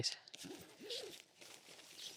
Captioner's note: zip sound